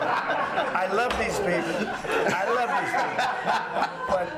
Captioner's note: laughter